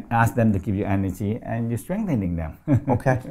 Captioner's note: laughs